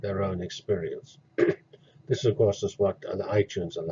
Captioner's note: cough